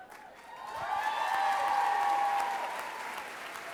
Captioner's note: cheering